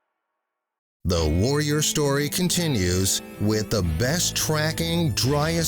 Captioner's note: voiceover